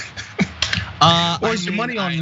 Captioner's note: laugh